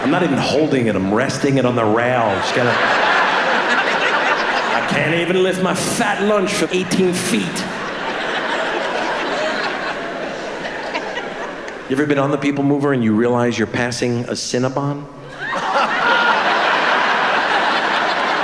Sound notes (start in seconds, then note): 7.9 laughter; 15.2 shrieking laugher